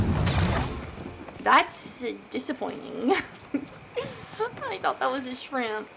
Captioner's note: laughs